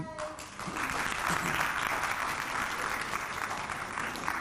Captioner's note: audience clapping